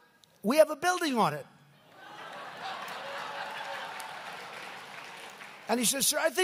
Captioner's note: laughter and applause